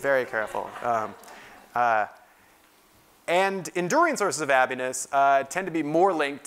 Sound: laugh

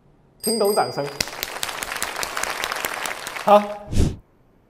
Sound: applause

